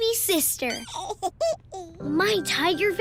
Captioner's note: baby cooing